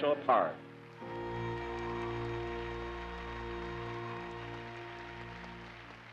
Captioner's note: cheers and applause